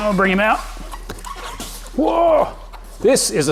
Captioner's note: tyre squeaks